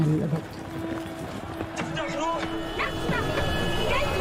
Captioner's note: people yelling; child yelling